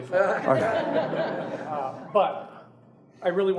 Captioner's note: audience laughing